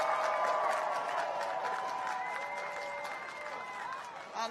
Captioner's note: cheers and applause